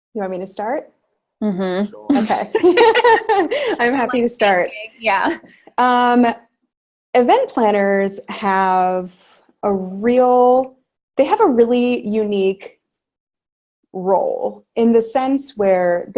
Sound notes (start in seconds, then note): 2.5 all laugh